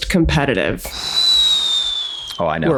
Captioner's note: Charlie whistles